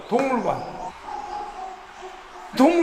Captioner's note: barking sounds